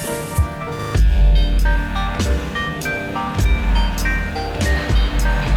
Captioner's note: bass heavy music; digital noise abstraction